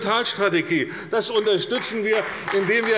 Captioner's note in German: Beifall bei der CDU